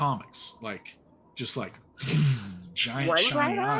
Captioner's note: mouth whooshes air